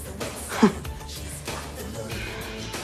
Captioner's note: chuckles